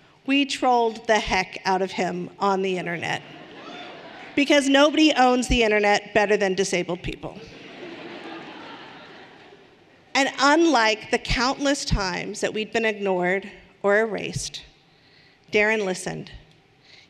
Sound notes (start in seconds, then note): 7.4 audience laughing lightly